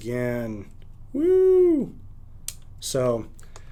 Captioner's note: light clicks